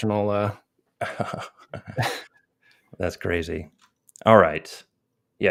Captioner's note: chuckles